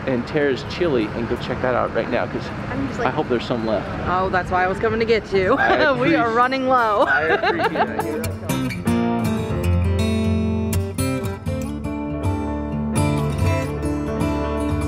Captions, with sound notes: and Tara's Chili, and go check that out right now. Cause I hope there's some left. - Oh, that's why I was coming to get to you. We are running low. (laughs) - I appreciate it. (country music)